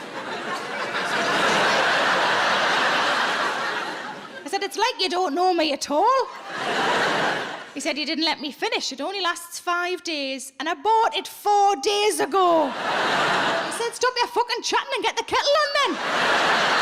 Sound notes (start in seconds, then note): 0.0 audience laughs; 6.2 audience laughs; 12.5 audience laughs